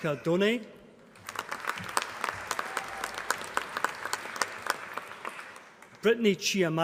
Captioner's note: applause